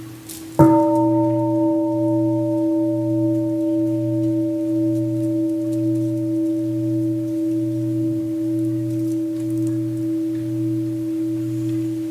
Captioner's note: gong